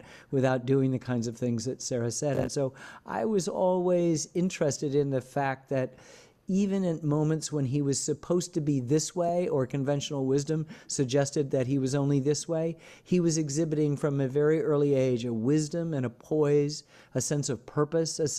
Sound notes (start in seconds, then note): none